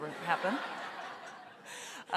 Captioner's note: audience laughter